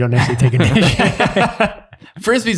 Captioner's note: all laughing